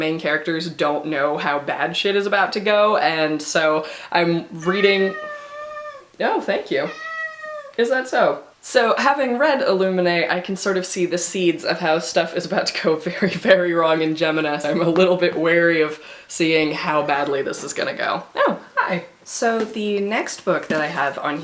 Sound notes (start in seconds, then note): 4.6 cat meows; 6.8 meow